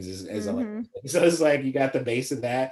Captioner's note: laughs